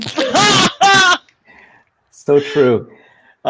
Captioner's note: laughing